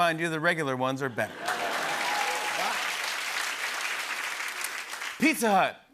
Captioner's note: laughter and applause